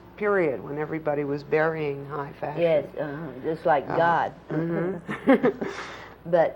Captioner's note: laughter